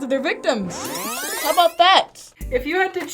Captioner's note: audio rewinding